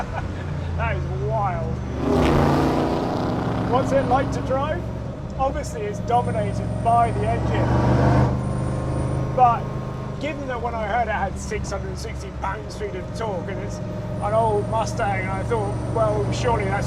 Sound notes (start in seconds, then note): 0.0 laughs